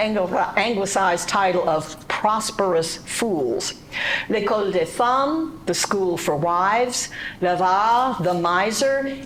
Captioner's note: speaking French